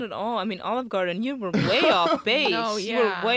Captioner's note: laughs